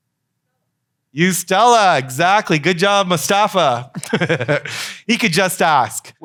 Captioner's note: laughs